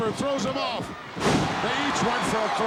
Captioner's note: audience cheering